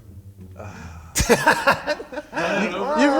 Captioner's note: sighs; laughs